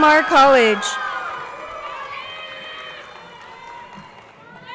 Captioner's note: crowd cheering